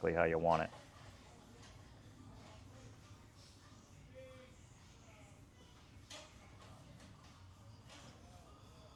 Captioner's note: silence